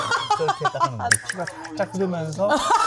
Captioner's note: laughing